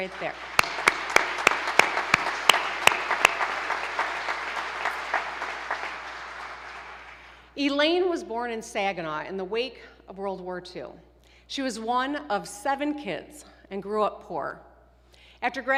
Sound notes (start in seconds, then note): 4.1 applause